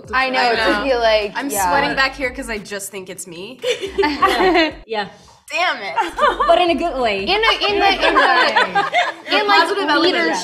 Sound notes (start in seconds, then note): 3.6 girls laugh